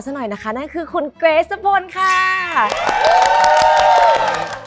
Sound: applause

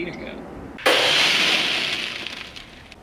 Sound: smack sound effect

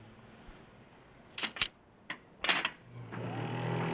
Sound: coins clink; bed whirring

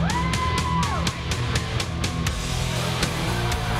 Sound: cheering

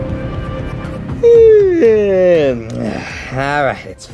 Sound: Yoshi yawns

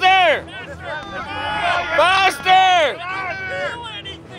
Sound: cheering

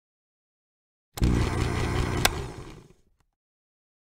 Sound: sound of blender

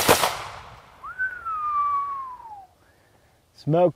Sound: whistles

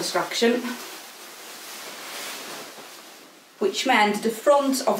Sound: skirt rustling

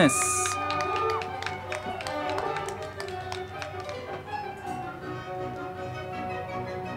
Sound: band music; crowd clapping

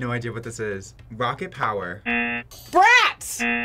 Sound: buzzer rings

